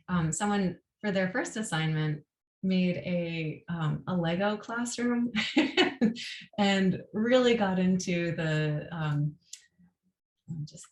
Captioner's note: laughter